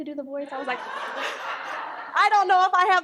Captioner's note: audience laughs